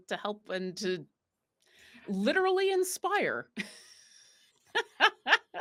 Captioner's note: laughs